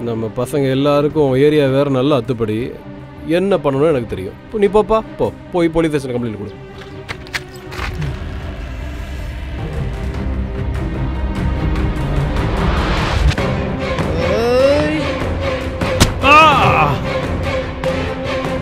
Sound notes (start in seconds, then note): 6.7 scratching noise; 8.1 suspenseful music